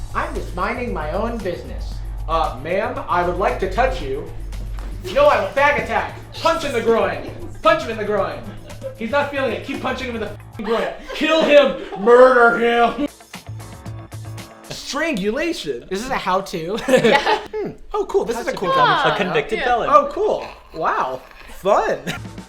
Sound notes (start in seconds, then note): 18.2 giggles; 21.6 upbeat music